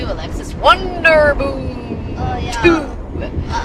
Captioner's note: mock announcer's voice